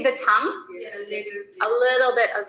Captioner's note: students speaking in the background